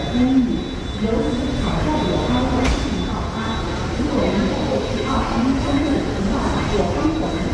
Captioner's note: muffled airport chatter and announcements